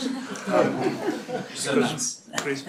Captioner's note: laughter